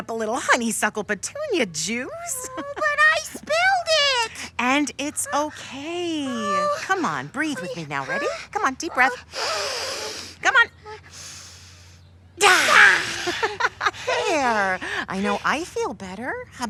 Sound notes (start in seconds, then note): 9.9 inhaling; 12.4 both laughing; 12.5 both exhaling